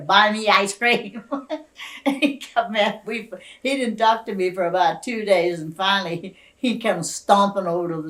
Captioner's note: laughs